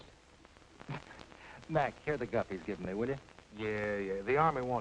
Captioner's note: scoffs